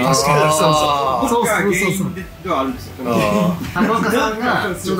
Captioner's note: laughs